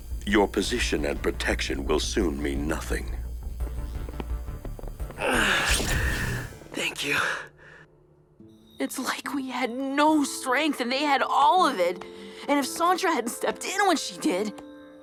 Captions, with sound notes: Your position and protection will soon mean nothing. [Brax gasps] Thank you. It’s like we had no strength and they had all of it. And if Santra hadn’t stepped in when she did...